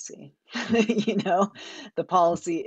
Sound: giggles

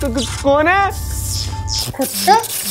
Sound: short circuit

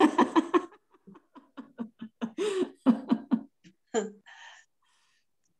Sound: laugh

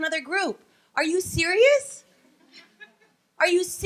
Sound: laughing

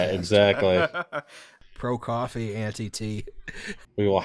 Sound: laughter

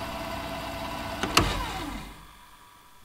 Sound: tape recorder rewinds; tape recorder winds down

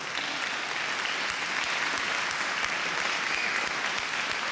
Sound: audience clapping

